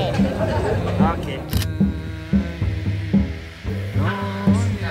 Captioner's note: camera snap